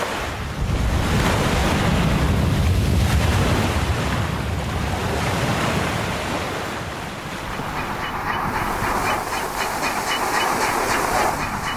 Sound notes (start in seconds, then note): 7.3 birds squawking